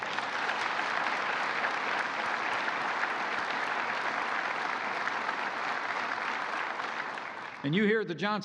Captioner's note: applause